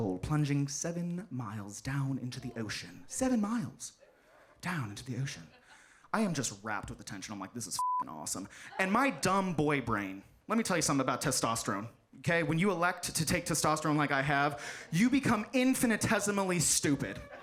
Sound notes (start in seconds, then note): 7.8 beep